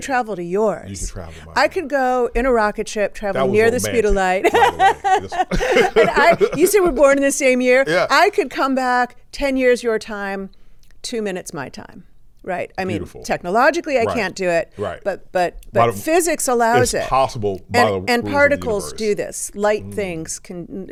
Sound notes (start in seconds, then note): 4.4 everyone laughs